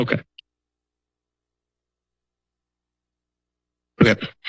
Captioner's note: silence